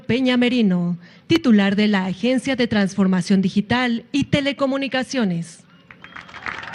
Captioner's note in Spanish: aplausos